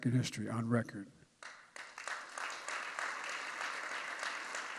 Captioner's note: applause